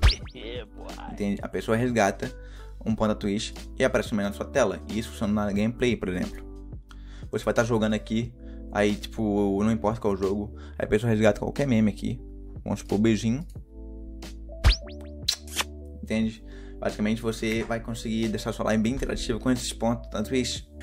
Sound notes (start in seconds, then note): 14.6 kiss sound